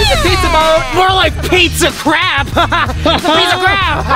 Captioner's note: laughing